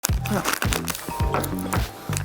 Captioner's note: cellphone ringing